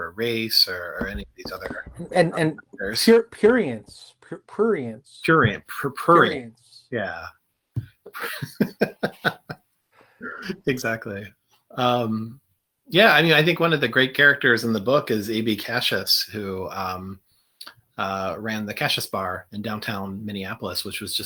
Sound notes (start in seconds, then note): 8.0 laughter